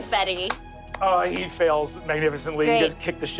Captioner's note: claps